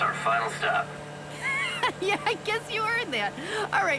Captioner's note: laughs